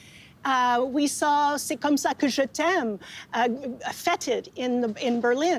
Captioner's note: speaking French